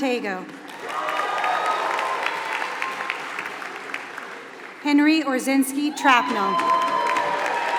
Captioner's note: applause